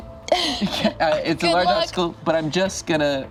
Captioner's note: laughs